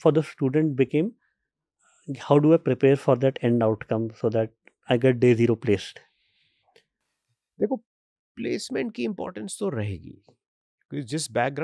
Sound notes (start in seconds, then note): 8.5 speaks hindi